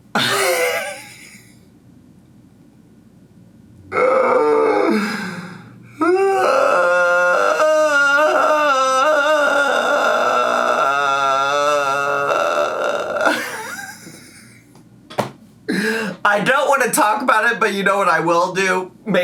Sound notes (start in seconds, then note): 0.1 laughs; 6.0 groaning; 12.9 laughs